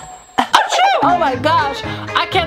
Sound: coughs; sneezes

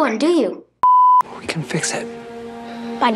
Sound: beep

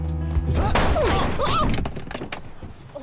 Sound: laughing; crashing; groaning

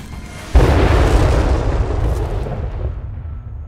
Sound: explosions

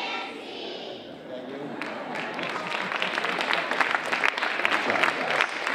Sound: audience applauding

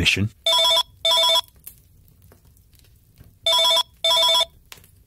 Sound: phone rings

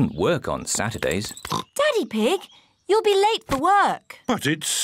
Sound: oinks

